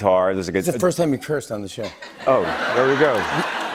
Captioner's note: laughter